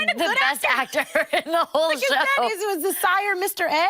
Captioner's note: laughing